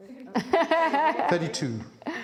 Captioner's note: laughing